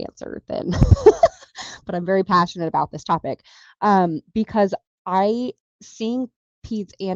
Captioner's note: laughs